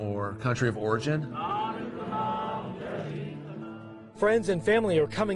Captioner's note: crowds chanting